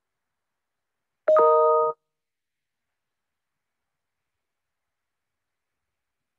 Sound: computer notification rings

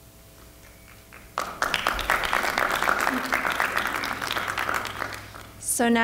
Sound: audience applause

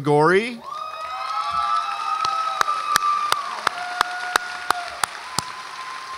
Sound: audience applauds and cheers

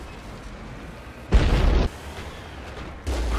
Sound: explosion

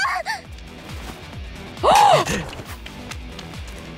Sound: gasps

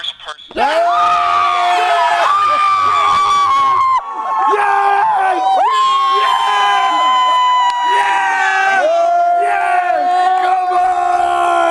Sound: cheering

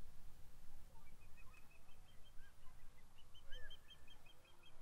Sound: bird chirping

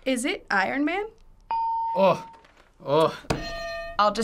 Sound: hitting bell; ding; hitting bell

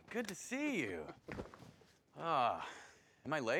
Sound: Phillip laughing

